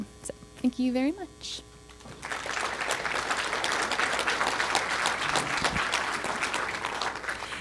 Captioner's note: applause